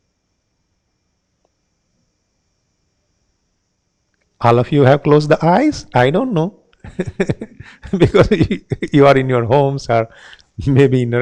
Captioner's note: giggles